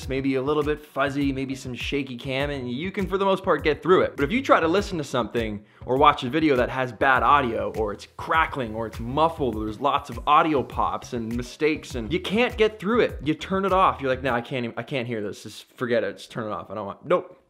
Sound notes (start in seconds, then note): none